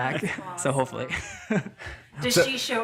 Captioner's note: all laughing